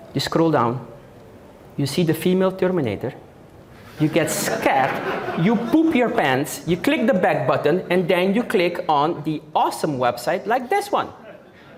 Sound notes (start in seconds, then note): 4.1 audience Laughing